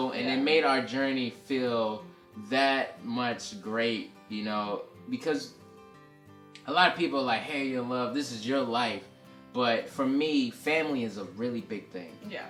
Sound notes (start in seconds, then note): none